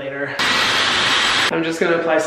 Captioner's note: dryer whirring